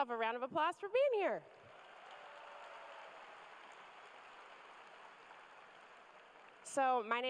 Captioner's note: cheers and applause